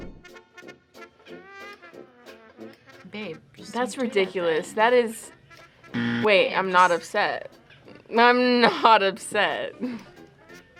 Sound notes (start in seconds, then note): 0.2 playful music; 5.9 buzzer rings